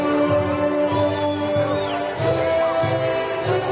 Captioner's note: crowd cheering